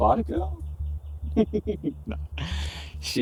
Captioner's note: laughs